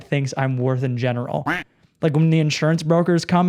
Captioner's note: duck quacks